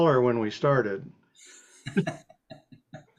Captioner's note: laughing